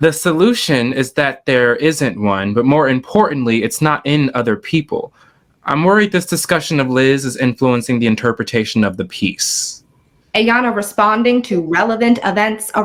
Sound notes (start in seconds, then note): none